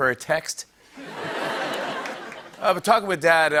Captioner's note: laughter